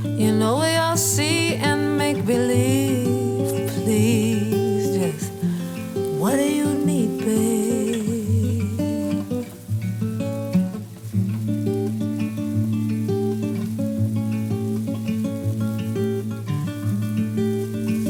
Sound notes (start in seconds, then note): 11.1 humming